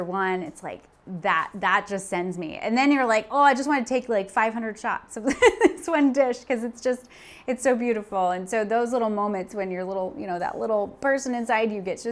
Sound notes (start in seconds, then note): 5.7 laughs